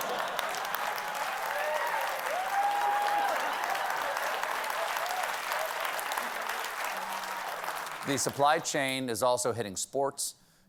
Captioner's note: cheers and applause